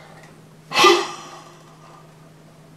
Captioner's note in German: Pfeifendes Geräusch